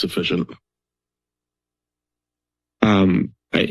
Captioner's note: silence